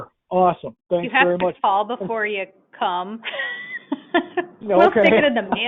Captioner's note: laughs